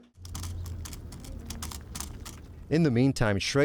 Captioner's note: water bottles clicking